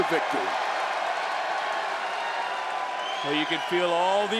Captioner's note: crowd cheers